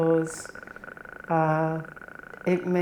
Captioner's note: clicking sounds